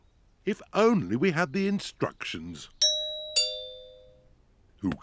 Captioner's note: doorbell rings